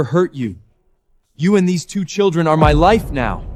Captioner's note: none